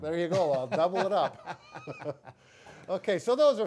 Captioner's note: chuckle